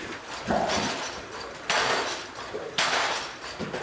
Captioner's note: metal clanking